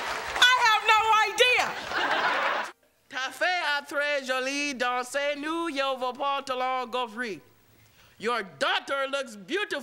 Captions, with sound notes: I have no idea! [speaking French]